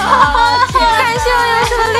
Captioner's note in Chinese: 偷笑